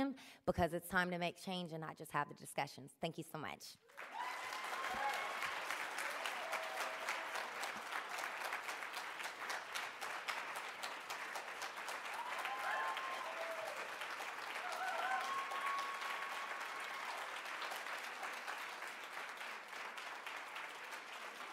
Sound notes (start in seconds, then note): 3.8 cheering; 4.9 applause